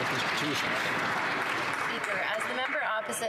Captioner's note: some Applause